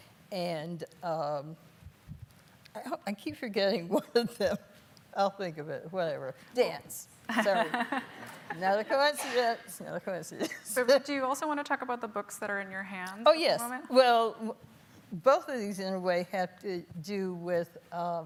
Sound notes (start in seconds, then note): 7.3 laughing